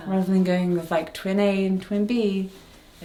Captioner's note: none